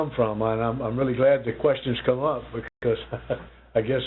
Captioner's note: chuckles